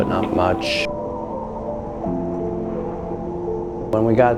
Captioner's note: wind howling